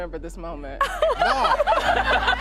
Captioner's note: crowd laughing